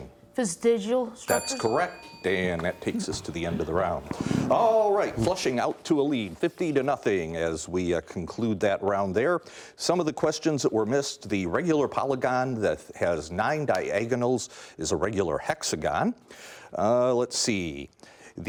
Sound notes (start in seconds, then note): 1.2 bell dinging